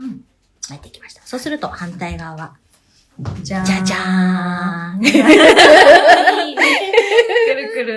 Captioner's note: laughs